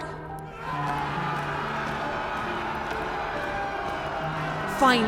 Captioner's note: large Crowd Cheer